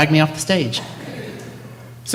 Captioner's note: laughter